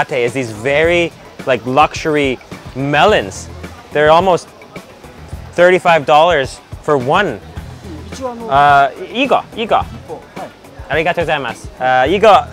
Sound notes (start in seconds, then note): 8.0 speaks in foreign language